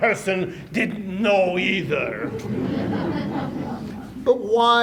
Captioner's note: laughter